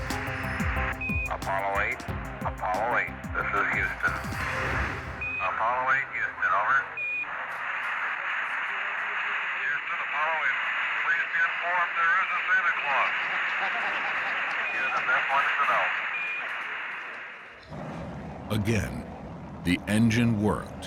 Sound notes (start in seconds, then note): 12.9 laughter